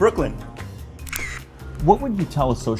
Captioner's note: camera shutter snaps